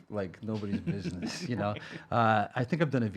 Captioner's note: chuckling